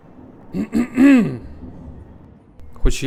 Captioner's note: ahem